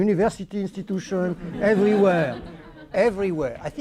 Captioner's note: laughter